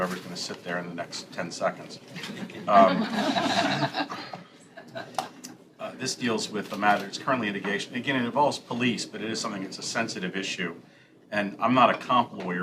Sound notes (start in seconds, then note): 4.8 laughter